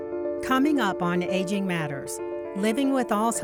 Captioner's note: voiceover